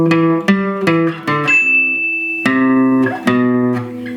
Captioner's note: alarm Sounds; plucking Guitar Strings